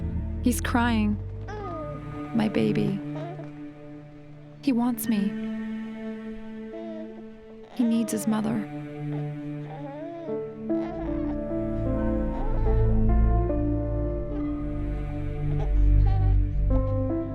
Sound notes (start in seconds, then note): 9.6 baby whimpering softly